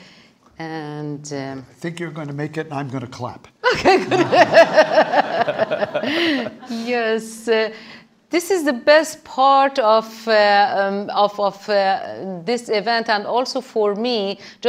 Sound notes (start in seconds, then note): 3.7 laughs; 3.8 audience laughing